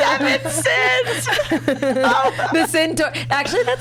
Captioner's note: laughs